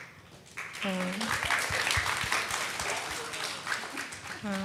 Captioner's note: audience claps